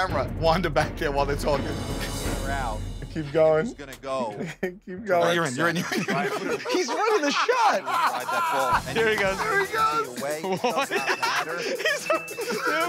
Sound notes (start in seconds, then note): 5.2 laughs; 10.8 laughter